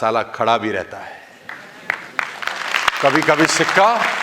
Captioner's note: rounds of applause